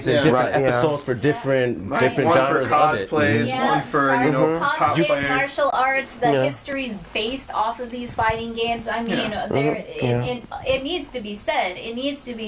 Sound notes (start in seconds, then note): 3.0 overlapping chatter